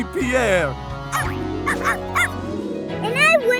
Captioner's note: barking